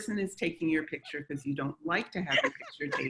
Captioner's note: laughs